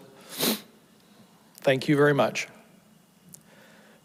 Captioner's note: sniffles